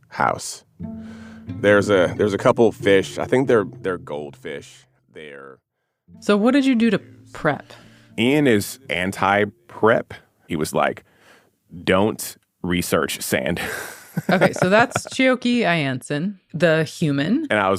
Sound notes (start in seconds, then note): 13.6 laughs